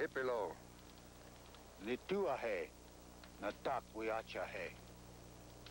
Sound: speaking Sioux

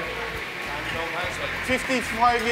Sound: speaking foreign language; man speaking foreign language

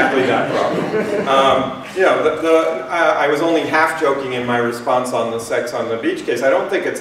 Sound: laughter

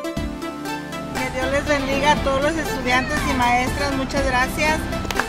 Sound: foreign language

